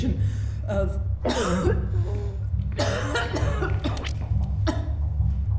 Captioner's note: violent coughing; wheezing